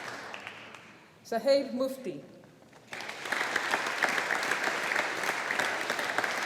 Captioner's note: audience applauding